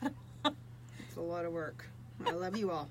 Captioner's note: laughs